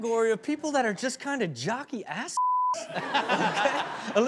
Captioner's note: beep